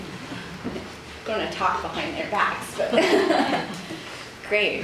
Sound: laughs

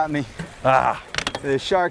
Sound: groans

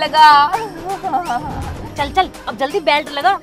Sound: laughing

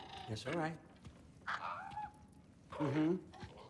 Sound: caw

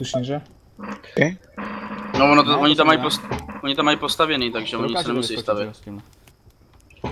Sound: chair sounds

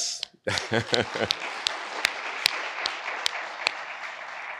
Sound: audience applauds

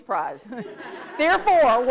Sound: audience laughs

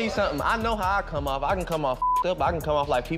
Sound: beep

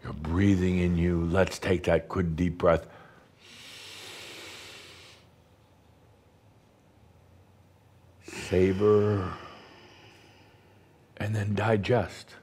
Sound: Adamus takes a deep breath and holds it for a moment

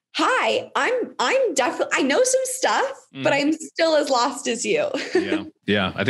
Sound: laughs

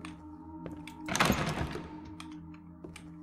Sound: door Rattles

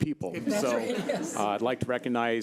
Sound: audience laughing

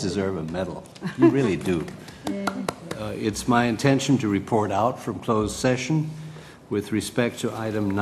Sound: laugh

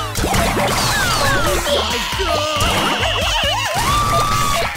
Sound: characters laughing and screaming; objects clattering

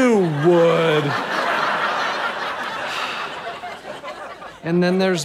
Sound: audience laughter

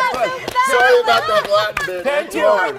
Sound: cheers and applause

